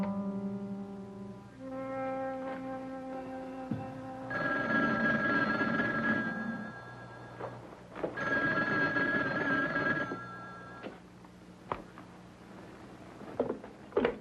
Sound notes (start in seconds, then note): 4.2 phone ringing